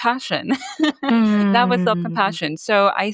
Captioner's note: laughs